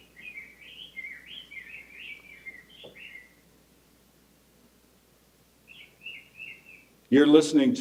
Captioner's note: rose breasted grosbeak call plays